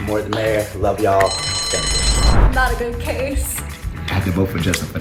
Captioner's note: bell rings